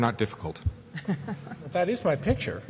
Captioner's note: chuckles